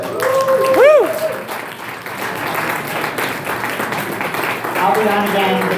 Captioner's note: crowd applause